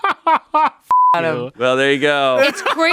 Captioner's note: laughs; beep